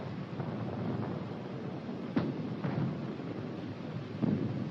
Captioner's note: explosions in distance